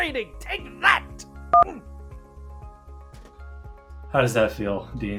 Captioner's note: phone beeps